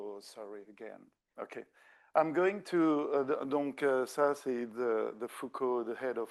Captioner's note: speaking French